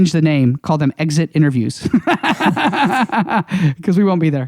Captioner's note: laughs